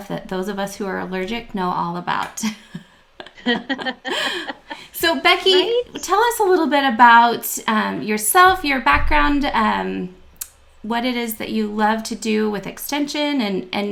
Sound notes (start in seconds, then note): 3.1 laughter